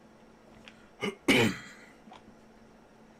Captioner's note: coughing, silence